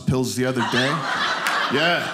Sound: audience laughing

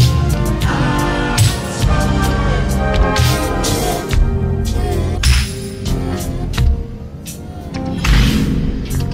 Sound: audio slowing down

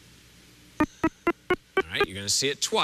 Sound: beeping

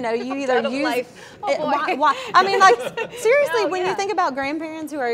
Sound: laughs

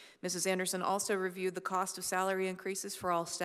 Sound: none

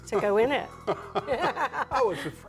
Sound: both laughing

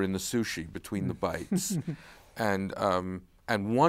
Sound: laughs

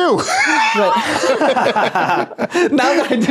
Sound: laughing

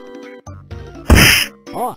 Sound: smack

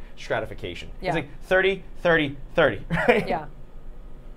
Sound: laughing

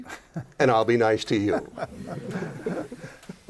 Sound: laughter

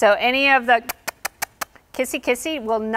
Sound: smacking lips

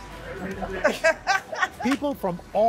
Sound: laughter

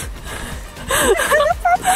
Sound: laughing

